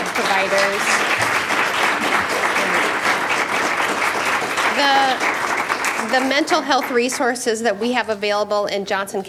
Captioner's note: applause